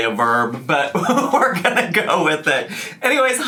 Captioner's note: laughing